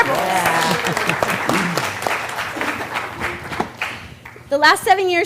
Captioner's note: applause